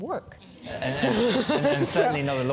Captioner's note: laugh